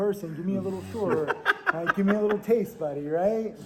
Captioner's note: laughing